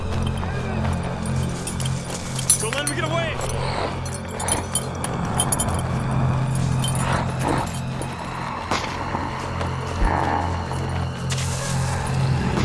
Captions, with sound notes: (men shouting) Don't let 'em get away. (zombie growls)